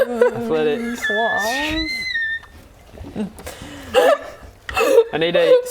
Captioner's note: laughing in hysterics